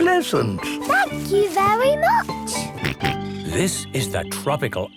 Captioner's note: George snorts